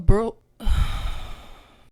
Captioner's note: siiiiigh